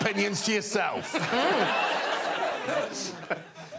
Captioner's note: audience laughing